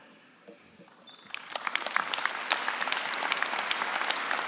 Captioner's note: applause